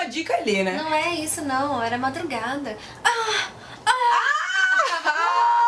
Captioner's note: moaning